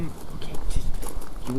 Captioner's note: quietly